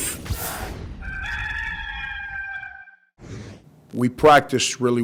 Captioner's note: cock crowing